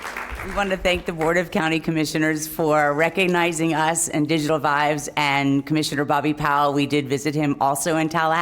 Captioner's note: applause